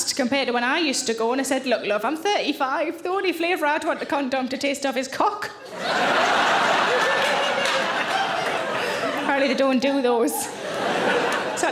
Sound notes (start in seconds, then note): 5.6 audience laughing